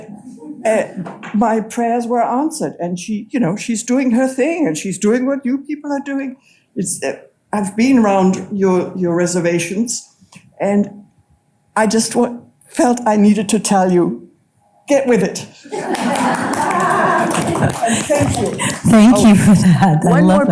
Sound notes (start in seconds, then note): 0.0 audience chuckles; 15.7 audience clapping and laughing